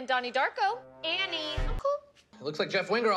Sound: among us sus sussy role reveal noise

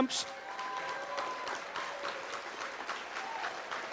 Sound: audience applauds

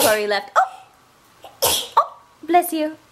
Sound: sneezes; sneezes

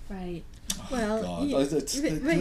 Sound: voiceover

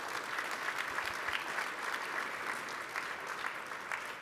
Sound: applause

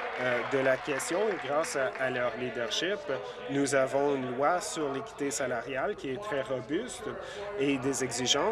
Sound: applause

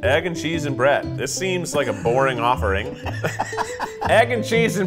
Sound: laughing

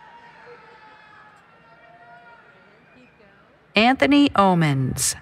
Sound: cheering

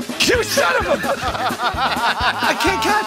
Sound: laughing

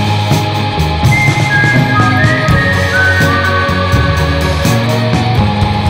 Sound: whistling

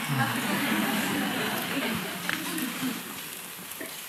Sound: laughter

